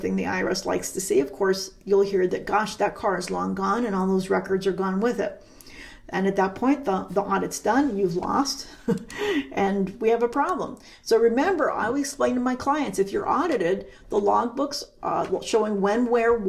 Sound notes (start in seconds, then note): 8.7 chuckles